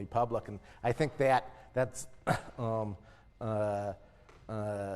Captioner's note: cough